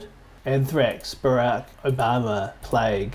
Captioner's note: mouse clicking